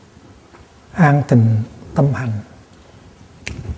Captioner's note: Vietnamese